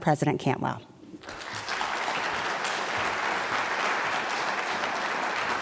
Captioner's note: applause